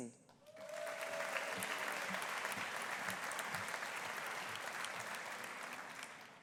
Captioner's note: audience applauding; audience cheering